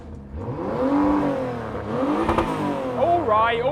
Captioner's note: loud revs continue